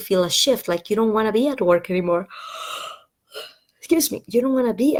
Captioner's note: yawn